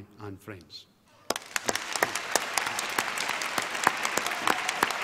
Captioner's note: applause